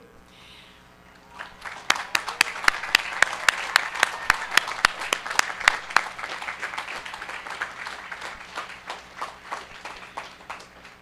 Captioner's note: applause